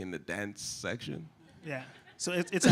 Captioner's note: laughter